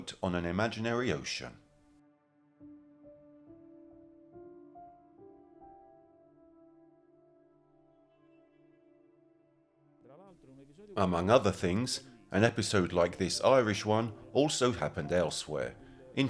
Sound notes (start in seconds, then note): 10.1 speaking in foreign language